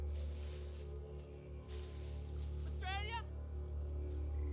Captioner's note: leaves rustling